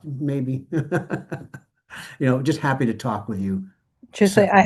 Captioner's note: laughs